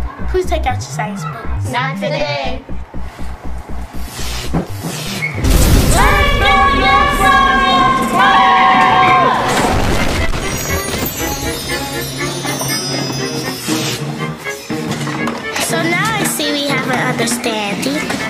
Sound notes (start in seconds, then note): 5.4 lightning crackling; 5.7 yelling; 9.7 crashing; 10.3 chiming